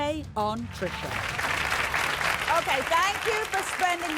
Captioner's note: audience applauding